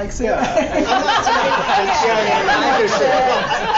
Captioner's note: laughter and many speaking